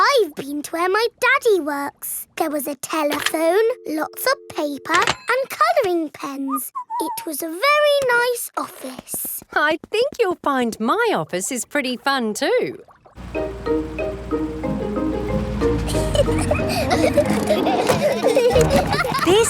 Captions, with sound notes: I've been to where my daddy works. There was a telephone, lots of paper and coloring pens. -(WHISTLES) -It was a very nice office. I think you'll find my office is pretty fun too! (CHILDREN GIGGLING)